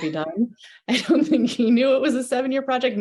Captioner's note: chuckles